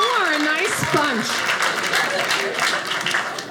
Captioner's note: audience laughing